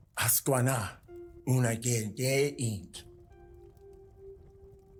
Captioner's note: speaking Cherokee language